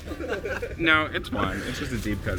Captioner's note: everyone laughing